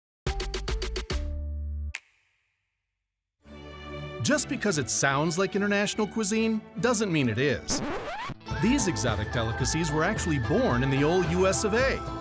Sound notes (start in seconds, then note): 7.6 record scratching